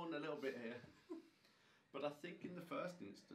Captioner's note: laughing